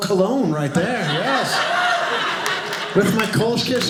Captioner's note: audience laughing